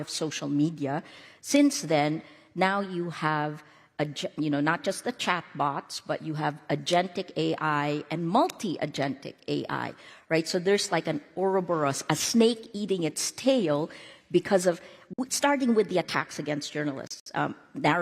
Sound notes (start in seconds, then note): none